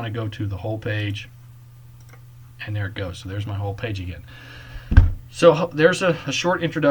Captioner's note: click